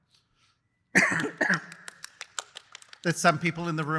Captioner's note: applause